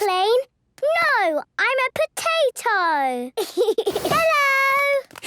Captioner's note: giggles